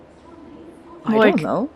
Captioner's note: train station ambience and crowd noises continue in the background